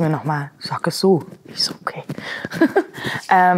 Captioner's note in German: Sie lacht